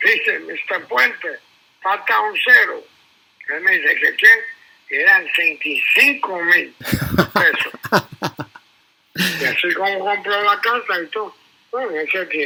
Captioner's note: laughs